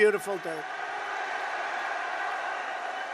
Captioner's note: applause